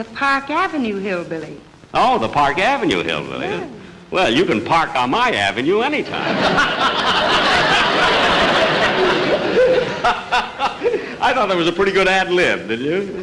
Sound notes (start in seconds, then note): 6.1 Jack and Audience Laughing; 9.3 Jack Cackling